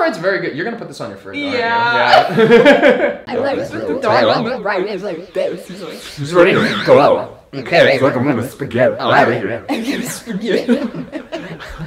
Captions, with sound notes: - The dog on the right's very good. You're gonna put this on your fridge, aren't you? - Yeah. (laughing) I like that the dog on the right is like this. - He's ready to go. He's like I'm in this spaghett outta here! - Oh, he's into it. - Get his spaghett out of here!